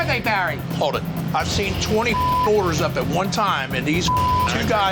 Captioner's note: beep